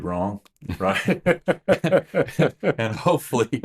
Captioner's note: both laughing